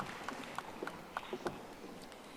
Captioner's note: audience applauding